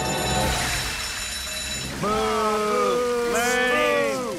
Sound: fire alarm rings

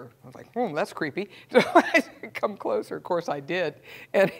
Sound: laugh

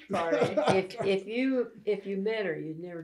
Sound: laughter

